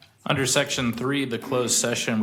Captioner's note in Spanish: coro de voto a favor